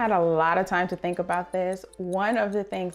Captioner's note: clock ticking